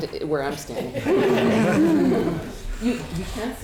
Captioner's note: audience laughing